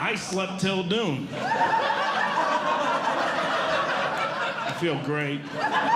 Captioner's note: audience Laughing